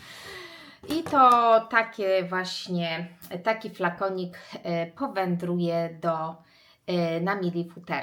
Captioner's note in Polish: wciągnięcie powietrza